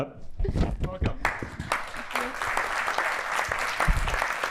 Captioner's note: applause